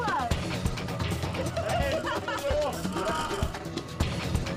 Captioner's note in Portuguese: todos riem